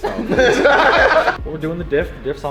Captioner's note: laughs